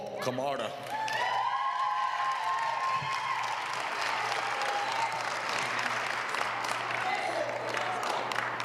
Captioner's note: applause